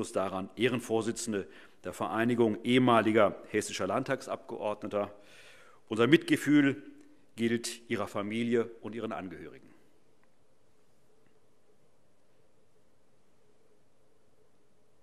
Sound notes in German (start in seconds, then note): 9.3 Schweigeminute